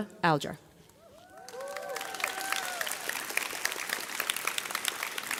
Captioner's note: graduates cheer